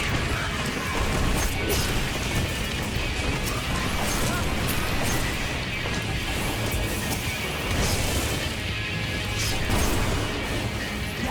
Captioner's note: explosions